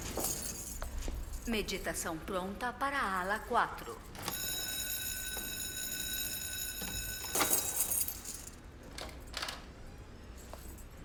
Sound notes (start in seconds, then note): 0.6 nurse on P.A; 4.2 bell ringing